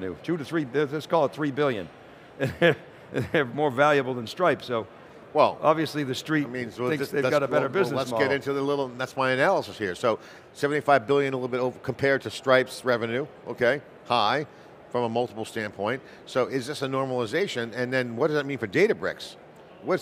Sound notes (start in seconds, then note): 2.4 laughs